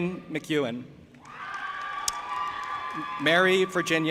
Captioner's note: audience applauding and cheering